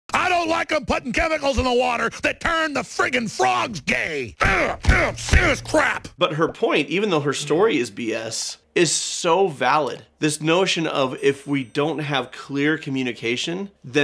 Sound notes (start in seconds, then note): 4.4 grunts with conviction